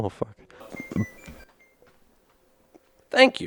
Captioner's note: stupid oven noises